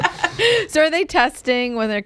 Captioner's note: laughter